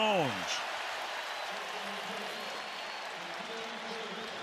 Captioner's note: cheering